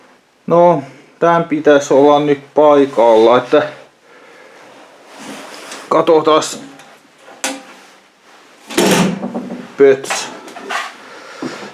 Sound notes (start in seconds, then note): 8.7 slam!